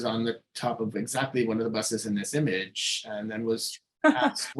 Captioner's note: laughing